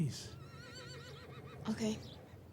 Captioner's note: horse whinnies distantly